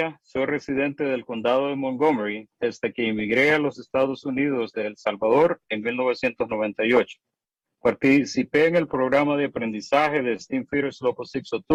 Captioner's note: spanish